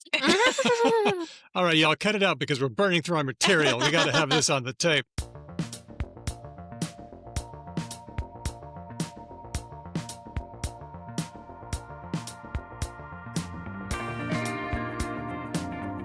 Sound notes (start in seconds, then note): 0.1 laughter